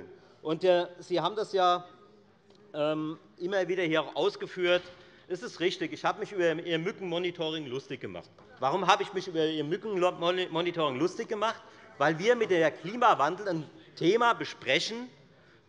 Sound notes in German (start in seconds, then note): none